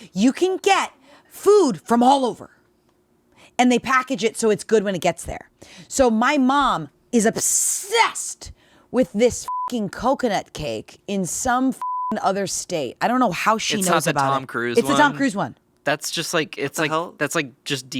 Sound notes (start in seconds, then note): 11.8 beeping